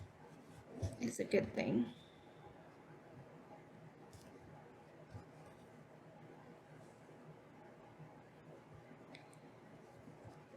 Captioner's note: silence